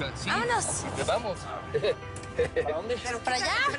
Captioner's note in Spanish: Risas